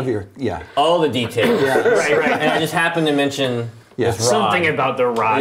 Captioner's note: laughter